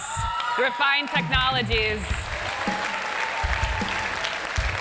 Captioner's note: applause